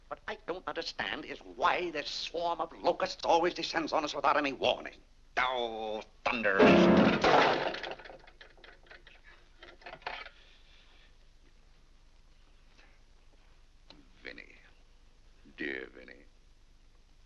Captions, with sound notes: What I don't understand is why this swarm of locusts always descends on us without any warning. Ohhh, thunder! (mashes piano keys) (object clatters) Oh Vinnie... Dear Vinnie.